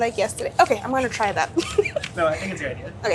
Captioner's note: laughing